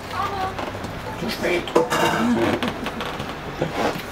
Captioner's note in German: flüsternd